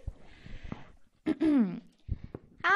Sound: clears throat

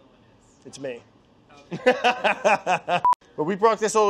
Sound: laughing

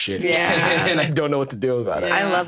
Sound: everyone laughs

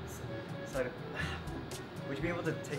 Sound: sigh

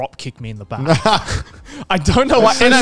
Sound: laughing

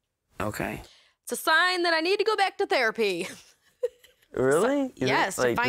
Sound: laughing

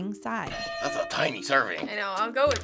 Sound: hitting bell

